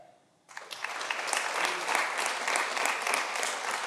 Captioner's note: audience applauding